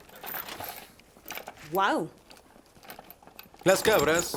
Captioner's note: goat bleats